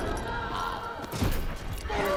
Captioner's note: grunts